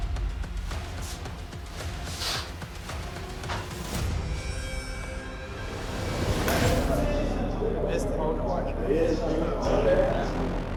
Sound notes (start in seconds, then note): 0.1 intense music; 7.0 inmates chattering